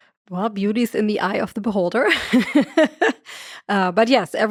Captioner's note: laughs